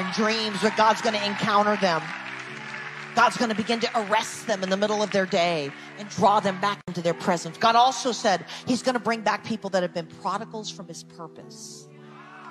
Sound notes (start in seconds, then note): 2.4 people cheering